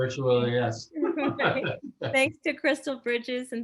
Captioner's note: laughs